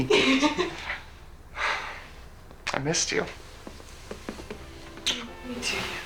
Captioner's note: sighs